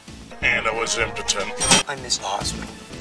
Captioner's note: ka-ching